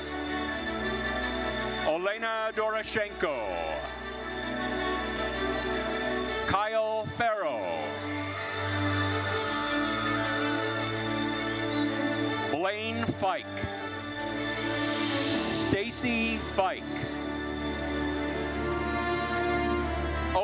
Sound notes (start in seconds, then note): 4.0 thrilling orchestral music continues; 8.6 attendees cheering; 17.4 thrilling orchestral music continues